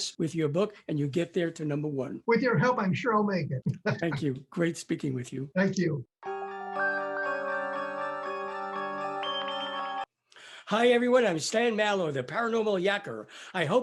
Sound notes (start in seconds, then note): 3.4 laughs; 6.2 eerie music